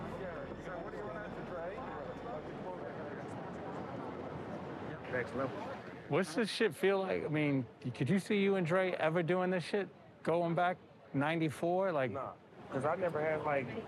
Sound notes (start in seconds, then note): 1.9 indistinct chatter